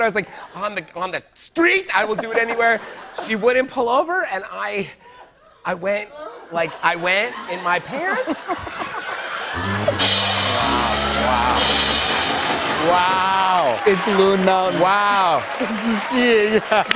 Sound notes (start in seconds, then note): 6.2 laughter; 9.5 cheers and applause; 9.6 low horn, rim shot; 11.4 ding